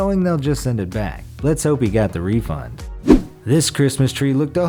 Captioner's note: air whooshes